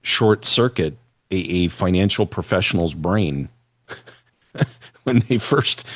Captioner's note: laughter